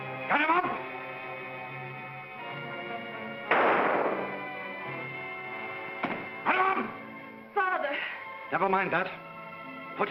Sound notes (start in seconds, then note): 2.2 sinister music; 3.4 gunshot; 6.0 gun hits floor